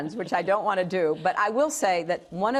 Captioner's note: laughter